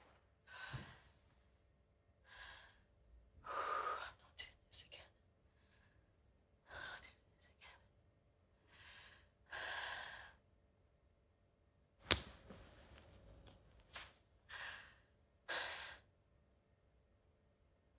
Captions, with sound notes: (heavily breathing) I'm not doing this again. I'm not doing this again.